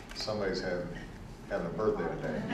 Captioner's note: laughter